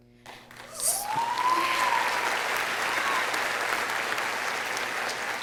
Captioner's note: audience applauding